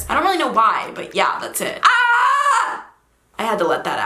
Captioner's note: screams